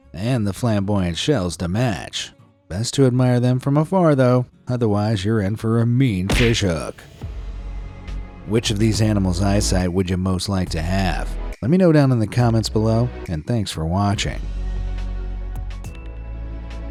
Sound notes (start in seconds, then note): 6.3 fist thuds; 6.7 soft music; 15.6 upbeat music